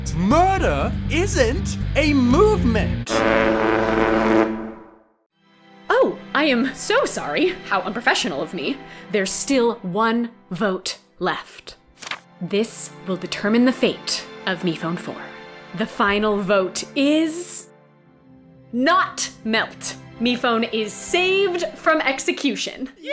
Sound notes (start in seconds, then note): 2.3 horn